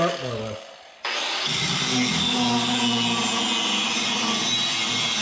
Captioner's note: grinder screeching